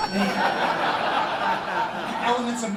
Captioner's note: laughter